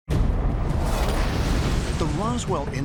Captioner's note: crash